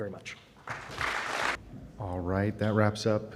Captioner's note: applause